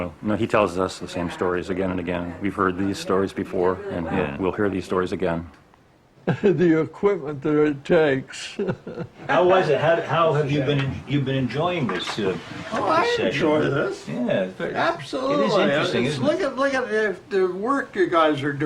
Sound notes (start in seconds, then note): 8.4 laughing